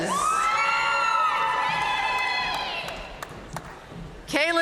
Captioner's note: audience cheering and applauding